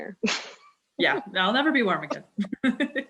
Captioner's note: laughter